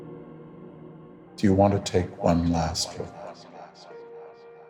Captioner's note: echoes; soft piano music